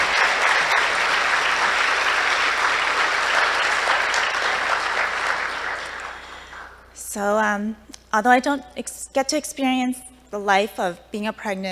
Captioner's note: applause